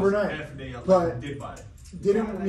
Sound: murmuring

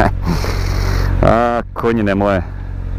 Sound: normal accent

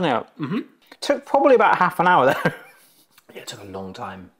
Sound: chuckles

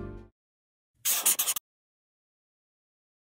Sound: marker scribbling

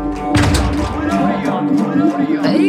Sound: echos

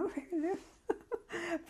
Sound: laughs

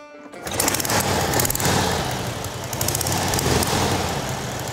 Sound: engine revving

